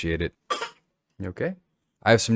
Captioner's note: baby coughs